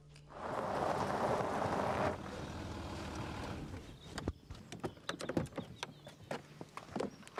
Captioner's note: engine rumbling; birds chirping